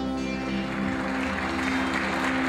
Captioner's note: applause